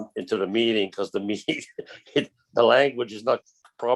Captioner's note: chuckles